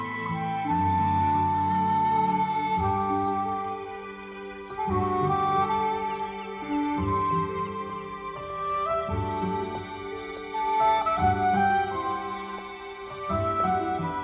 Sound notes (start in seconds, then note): none